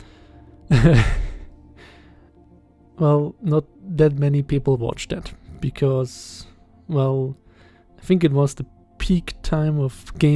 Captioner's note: laughs